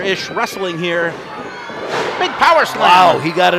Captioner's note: thud